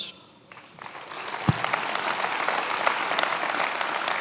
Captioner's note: many applauding